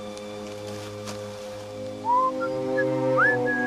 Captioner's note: pfeift; whistles